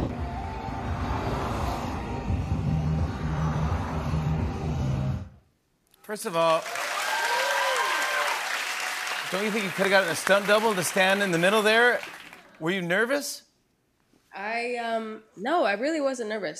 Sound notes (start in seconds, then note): 6.3 cheers and applause